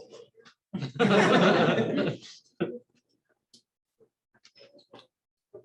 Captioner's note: laughter